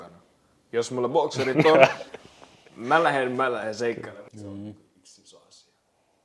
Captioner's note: laughter